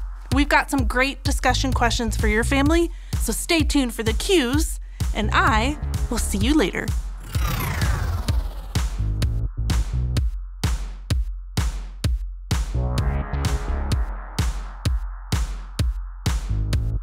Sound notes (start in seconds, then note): 7.1 electronic whoosh; 8.9 electronic dance music